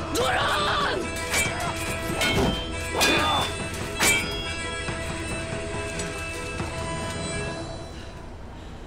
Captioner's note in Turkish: kiliç sesi̇